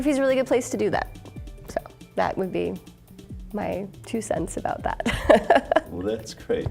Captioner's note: laughing; chuckling